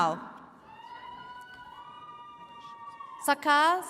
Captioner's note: attendees cheering